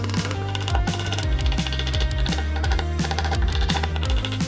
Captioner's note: drill whirring